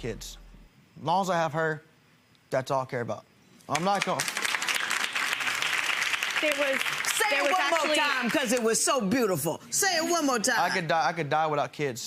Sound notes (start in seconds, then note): 3.7 audience applauds